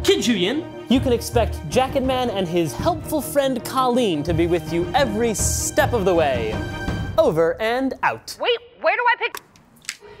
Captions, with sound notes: Kid Zhuyin, you can expect Jacketman and his Helpful Friend Colleen to be with you every step of the way! Over and out. (on phone) Wait! Where do I pick –